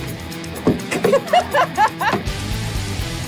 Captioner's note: laughs